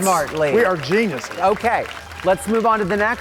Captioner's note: audience claps